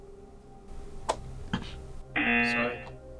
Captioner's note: lid snaps; klaxon blares